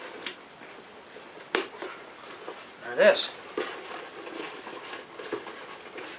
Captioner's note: snap